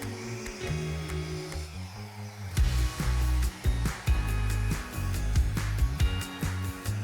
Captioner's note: blower whooshing continues; gentle upbeat music